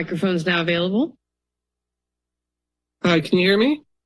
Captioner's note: silence